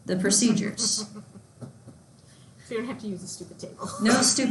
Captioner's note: laughs loudly